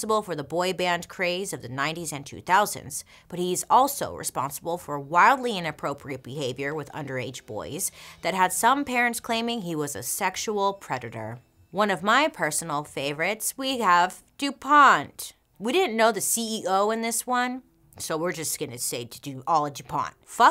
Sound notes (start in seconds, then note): none